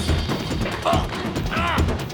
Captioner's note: grunting